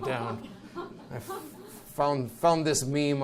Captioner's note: audience chuckles nervously